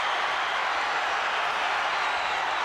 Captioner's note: crowd cheering